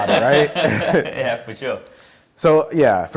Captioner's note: laughs